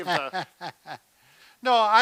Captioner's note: laughs